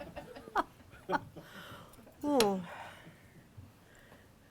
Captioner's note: audience laughing; laughing